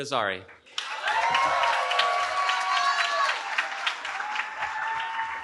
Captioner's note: cheering